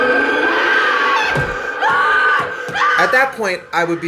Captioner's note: screams